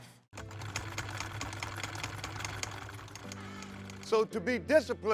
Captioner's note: sewing machine whirring